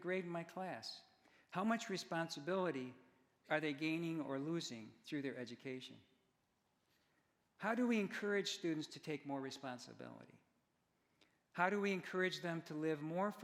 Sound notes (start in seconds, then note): none